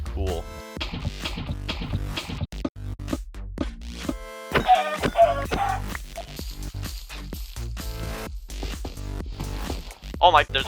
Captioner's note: also cool montage sounds